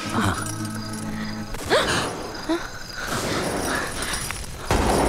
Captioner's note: Gunshot